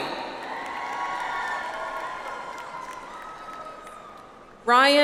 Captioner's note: audience applauds